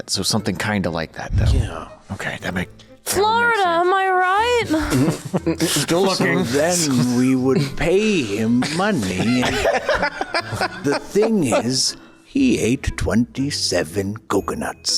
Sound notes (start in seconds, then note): 8.2 laughs